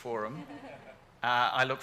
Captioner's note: audience laughing